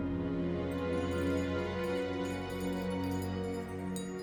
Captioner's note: tinkling softly